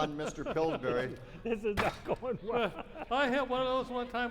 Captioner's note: laughing